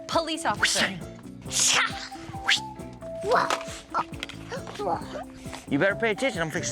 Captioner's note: fighting sounds